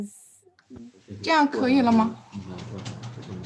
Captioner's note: speaking in Chinese